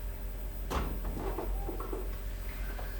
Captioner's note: quiet rumbling